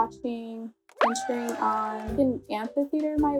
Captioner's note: crowd cheers